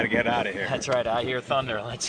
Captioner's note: thunder rumbles